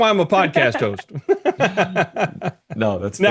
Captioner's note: laughing